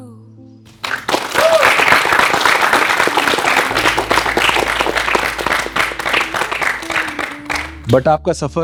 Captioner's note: applause